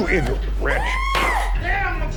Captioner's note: lady screaming